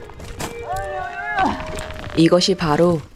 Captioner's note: very distressed sound